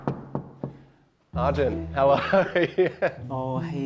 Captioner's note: laughing